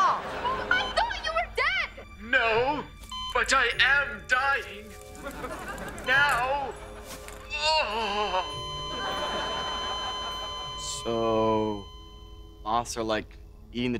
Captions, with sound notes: I thought you were dead! No, but I am dying... now. [groaning] [beeping] So... moths are like eating the trees?